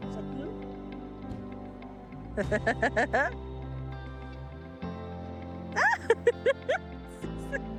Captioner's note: laughing